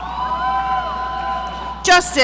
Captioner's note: audience cheering